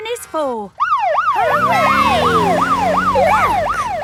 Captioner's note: siren